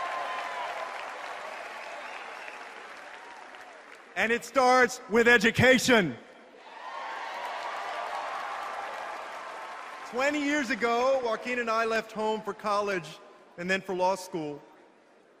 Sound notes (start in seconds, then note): 0.0 applause; 6.8 applause